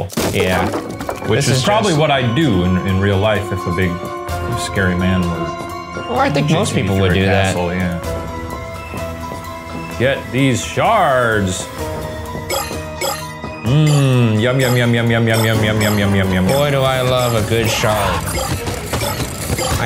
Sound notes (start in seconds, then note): 12.3 shards bleeping; 18.0 feet thumping